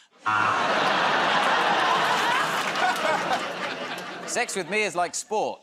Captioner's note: laughter, buzzer